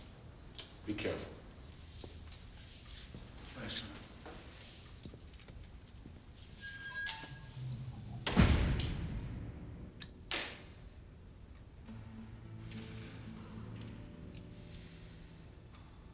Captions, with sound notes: Be careful. - Thanks, man. (door bangs shut) (gentle sorrowful music)